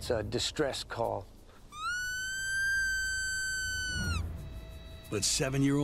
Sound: rabbit call

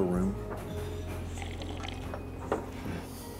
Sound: slurps

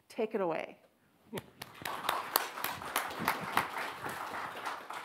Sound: audience applauds

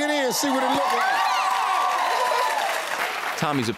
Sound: audience cheers

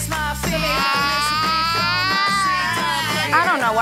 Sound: screams; upbeat music

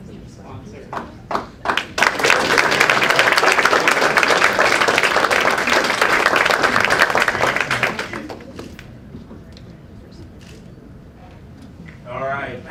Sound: applause

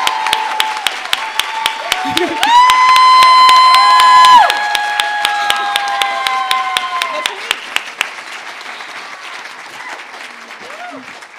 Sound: cheers and applause

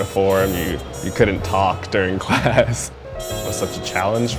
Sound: chuckles

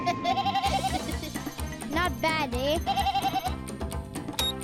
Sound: bleating; bleating

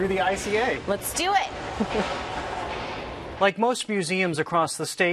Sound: chuckles

